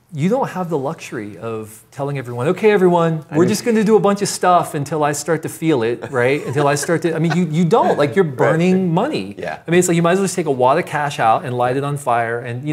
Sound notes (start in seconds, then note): 6.0 laughs